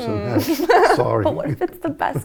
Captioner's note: lady laughing